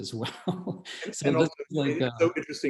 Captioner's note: laughs